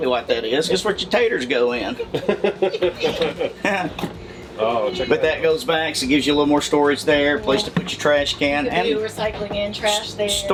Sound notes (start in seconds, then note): 1.8 laughter